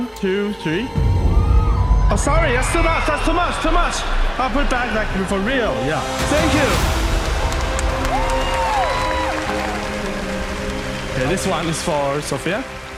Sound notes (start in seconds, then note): 8.8 cheering and applause